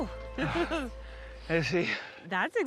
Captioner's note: chuckling